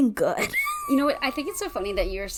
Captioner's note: laughs